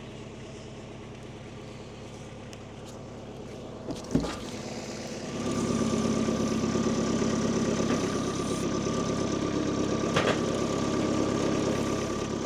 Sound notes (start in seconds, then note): 3.8 wood clunks; 5.6 engine humming; 10.1 wood clunking; 12.2 engine humming continues